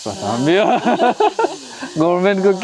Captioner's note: both laughing